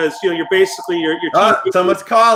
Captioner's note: phone ringing